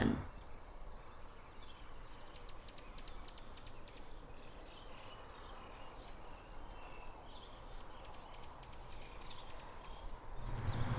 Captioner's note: birds chirping